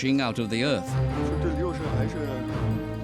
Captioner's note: speaking Chinese